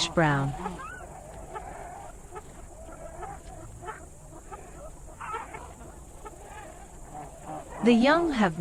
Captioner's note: jungle sounds